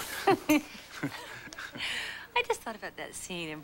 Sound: laughs

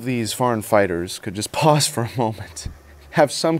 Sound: laughs

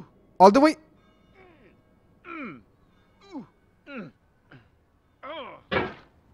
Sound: {Weeeeeeeeeeeeeeeeeeeeeeeeeeeeeeeeee}

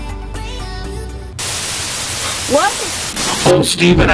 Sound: static sound

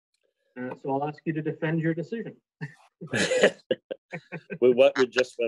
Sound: laughs

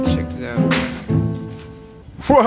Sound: door slam

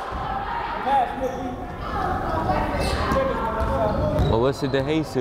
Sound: crowd chattering

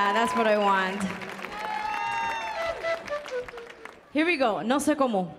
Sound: audience applauding

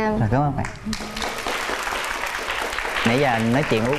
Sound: clapping hands

